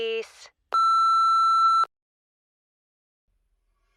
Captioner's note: beeping